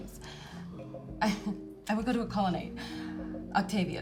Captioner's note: laughs